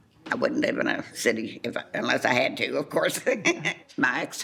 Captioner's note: laughs